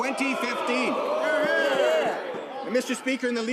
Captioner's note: some Applause